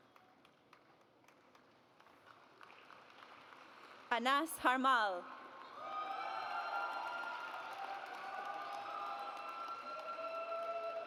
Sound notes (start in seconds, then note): 2.0 audience applauds; 5.7 audience cheers